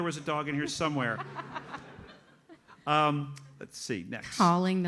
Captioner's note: audience laughs